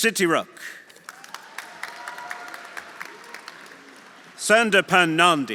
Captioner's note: audience applauding; audience cheering